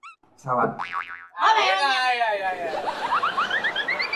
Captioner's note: sound effect + Laughing